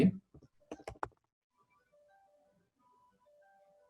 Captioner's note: pause